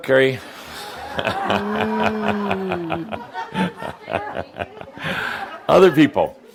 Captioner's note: laughter